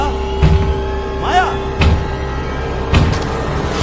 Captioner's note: door banging